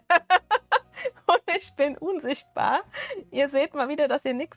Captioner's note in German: Gelächter